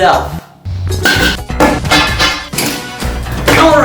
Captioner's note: aggresively puts down things